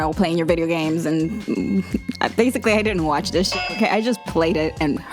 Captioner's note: clanging